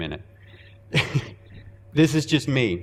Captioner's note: chuckling